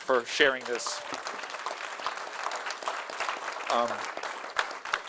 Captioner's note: audience applauding